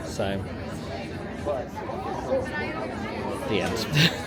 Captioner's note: people chatter; laughs